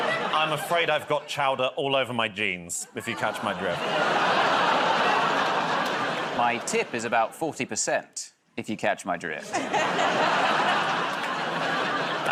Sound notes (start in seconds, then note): 3.5 laughter, groaning; 9.4 laughter